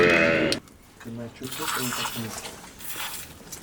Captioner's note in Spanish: ruidos de ordeño